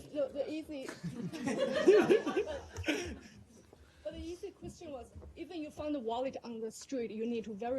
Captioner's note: laughter